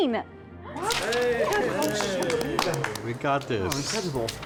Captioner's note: group cheering